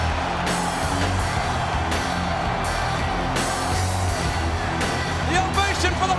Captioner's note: crowd cheering continues; upbeat rock music continues